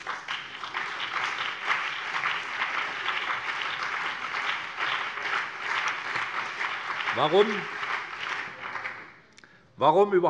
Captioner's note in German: Beifall BÜNDNIS 90/DIE GRÜNEN